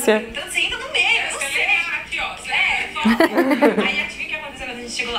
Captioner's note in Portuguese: risos